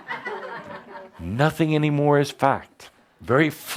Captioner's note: laughter